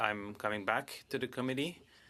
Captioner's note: speaking in French